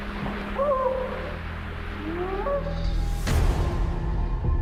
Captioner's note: creature howling